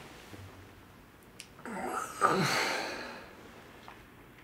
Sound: groans

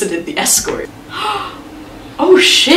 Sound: gasps

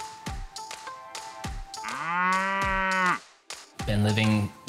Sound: mooing

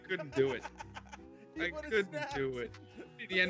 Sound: laugh

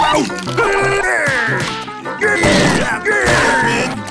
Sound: grunting

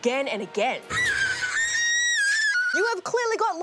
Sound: screams

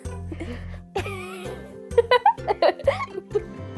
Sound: giggles

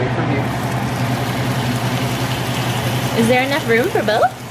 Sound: steak sizzling

